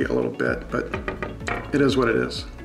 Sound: knocking

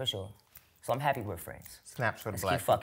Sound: fingers snapping

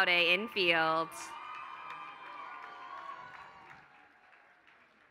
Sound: applause

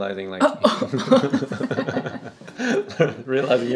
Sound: laughing

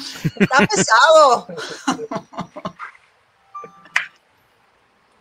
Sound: speaking in foreign language

